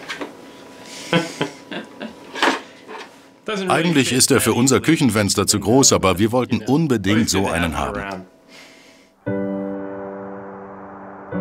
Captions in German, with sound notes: (englisch:) Eigentlich ist er für unser Küchenfenster zu groß, aber wir wollten unbedingt so einen haben. (Ruhige Musik)